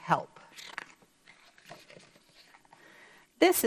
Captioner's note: paper rustles